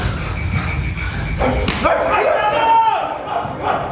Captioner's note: dogs barking